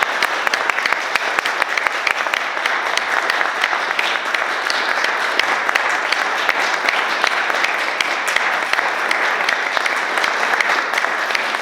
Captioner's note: applause